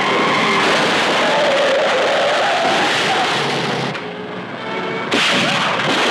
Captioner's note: tires screeching; car crashing; gunshots firing